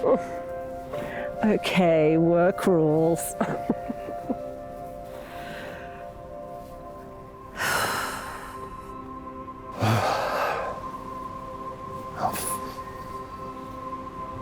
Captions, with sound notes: (chuckles) Okay, work rules. (Paige laughs) (Paige sighs) (Adrian sighs) - Oh.